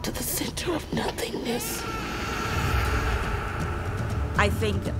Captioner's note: baby crying